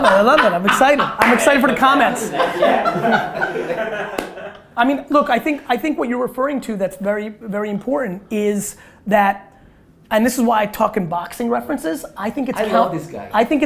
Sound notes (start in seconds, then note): 3.1 laughter